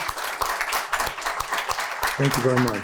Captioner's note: applause